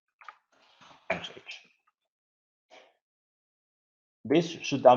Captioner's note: mumbles